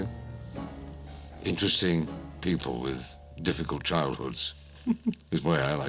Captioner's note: chuckles